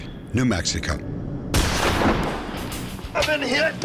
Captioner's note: gunshot